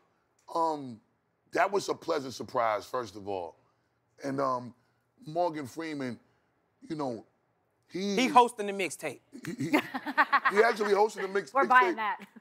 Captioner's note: laughing